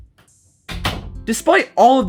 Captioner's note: door shuts